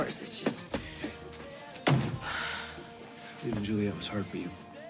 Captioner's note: sighs